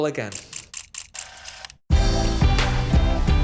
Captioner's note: camera shudders; upbeat music